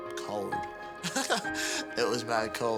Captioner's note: laughs loudly